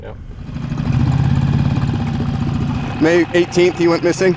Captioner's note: engine rumbling